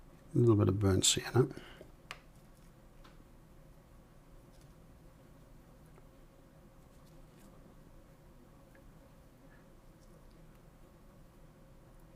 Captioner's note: silence